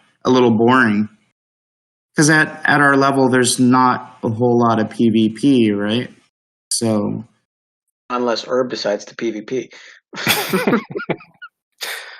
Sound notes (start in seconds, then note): 10.1 laughing